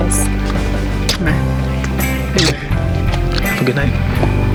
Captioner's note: smooching